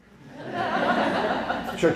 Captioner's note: laughter